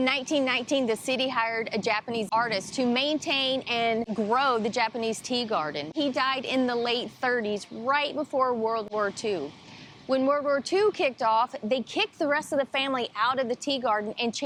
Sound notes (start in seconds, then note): none